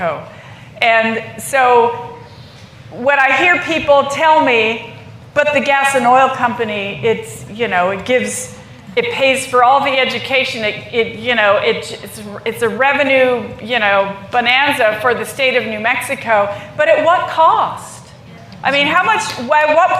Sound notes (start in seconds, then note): none